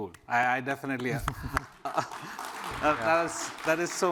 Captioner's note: applause